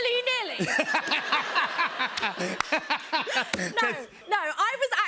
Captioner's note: laughter